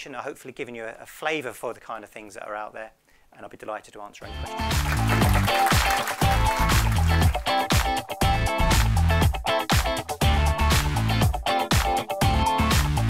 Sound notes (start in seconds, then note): 4.2 bright funky music; 4.4 audience applauds